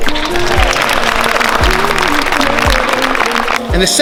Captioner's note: crowd claps